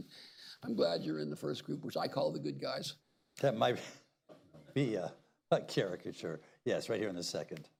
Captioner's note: laughs